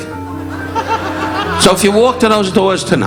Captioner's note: audience laughing